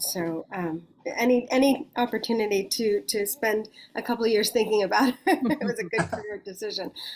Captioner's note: laughs